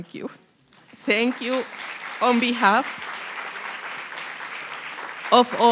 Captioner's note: applause